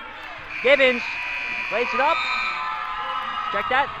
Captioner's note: buzzer rings